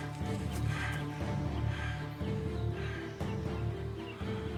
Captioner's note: Joshua panting